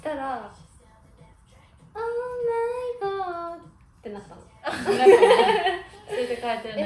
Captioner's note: laughs